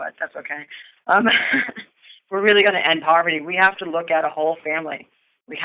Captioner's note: chuckle